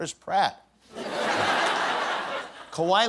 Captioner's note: laughter